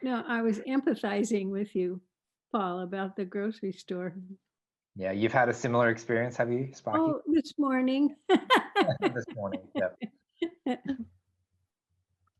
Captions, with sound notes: - I was empathizing with you about the grocery store. - Yeah, you've had a similar experience, have you? - Oh this morning (laughs). - This morning, yeah.